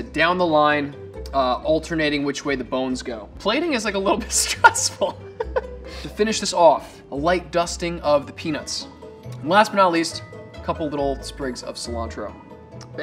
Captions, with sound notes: down the line, alternating which way the bones go. Plating is like a little bit stressful. [laughs] To finish this off, a light dusting of the peanuts. Last, but not least, a couple of little sprigs of cilantro.